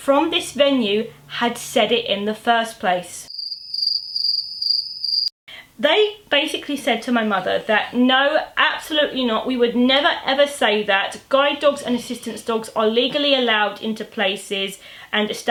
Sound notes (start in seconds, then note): 3.3 crickets sound effect